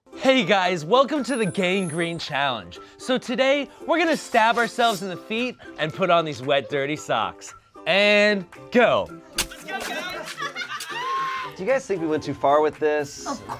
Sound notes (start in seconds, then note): 9.4 stabbing sounds